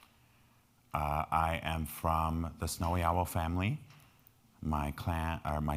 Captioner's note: speaking in foreign language